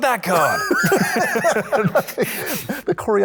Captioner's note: both laughing